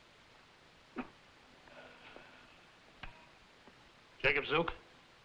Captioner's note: Jakob coughing and groaning